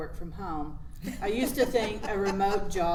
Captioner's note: laughs